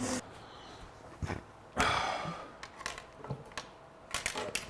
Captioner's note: tools clinking